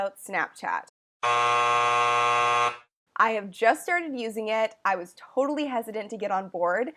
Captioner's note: buzzer